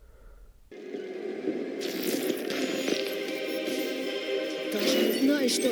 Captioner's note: audio from show